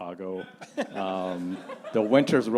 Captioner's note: panelists and audience laughing